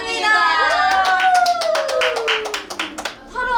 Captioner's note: clap